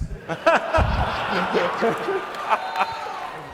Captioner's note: laughing